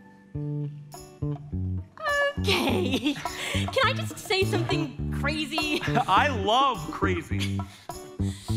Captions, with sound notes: - Okay. (laughs) Can I just say something crazy? - I love crazy.